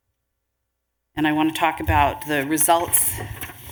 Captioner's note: rustling of papers